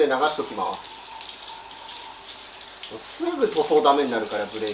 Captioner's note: shower sounds